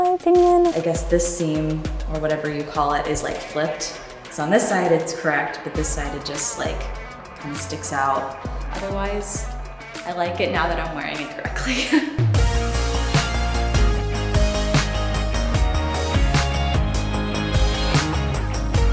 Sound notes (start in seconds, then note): 12.4 laughs; 14.4 upbeat music